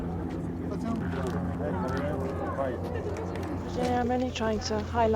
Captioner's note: helicopter engine roaring